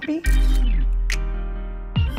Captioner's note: piano music; shutter clicks